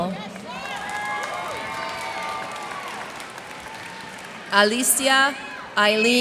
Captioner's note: cheers and applause